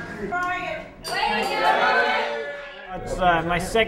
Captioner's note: cheering